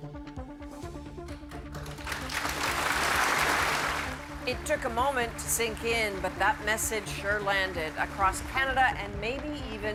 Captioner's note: applause